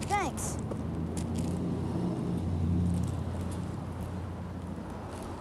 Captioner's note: car engines revving